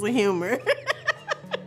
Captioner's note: laughter